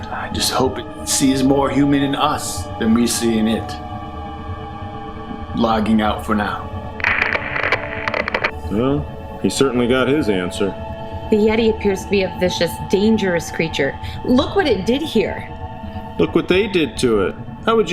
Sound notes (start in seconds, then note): 7.0 static crackling; 7.0 static hissing